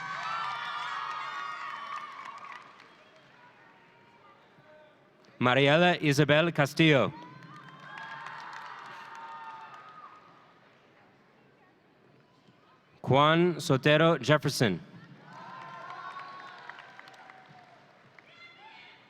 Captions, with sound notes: (audience cheering) Mariela Isabel-Castillo. (audience cheering) Quan Sotero Jefferson. (audience cheering)